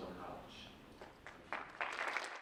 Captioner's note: audience applauds